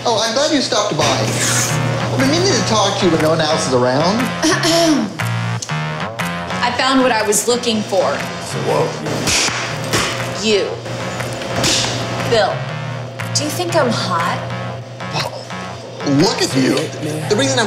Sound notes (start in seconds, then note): 9.2 whip crack!